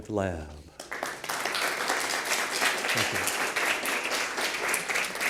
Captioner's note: applause